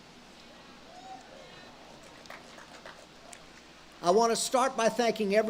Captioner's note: audience cheers and claps